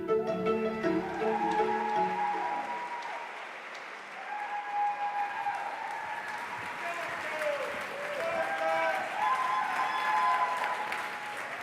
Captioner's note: applause